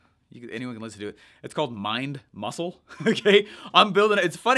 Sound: giggles

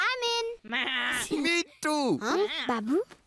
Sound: chuckling

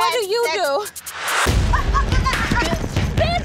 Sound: yells

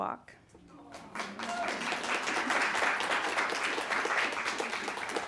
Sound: audience applauding

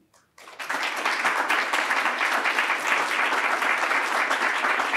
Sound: congregation clapping

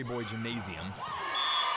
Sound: cheers

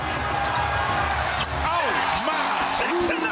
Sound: audience cheers

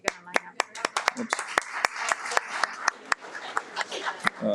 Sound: audience applauds

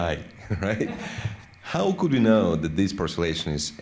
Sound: laughter

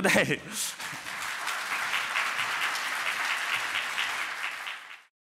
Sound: applause

